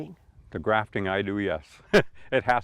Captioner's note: chuckles